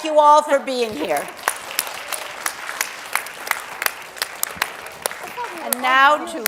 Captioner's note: applause